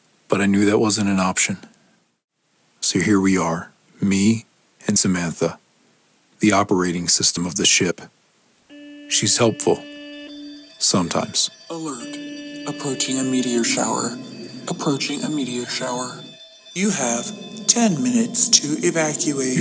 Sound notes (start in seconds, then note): 12.8 alarm